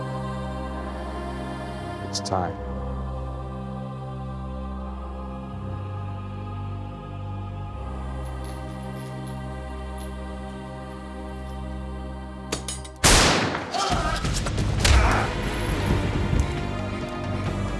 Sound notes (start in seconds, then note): 13.0 gunshot